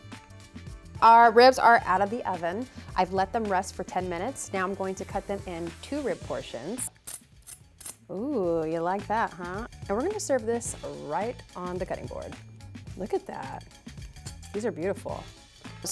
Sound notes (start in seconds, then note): 6.9 knife scrapes